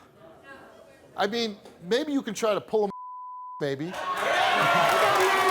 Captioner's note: beep